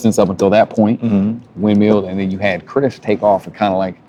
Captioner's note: none